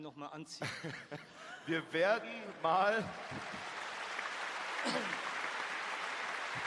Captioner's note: applause